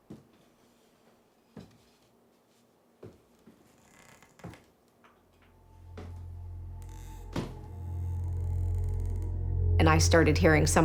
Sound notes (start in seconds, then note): 2.9 slow footsteps; 5.9 boards creaking